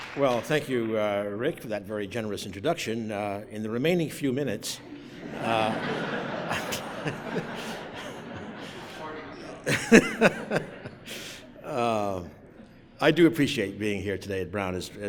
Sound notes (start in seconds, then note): 4.8 laughter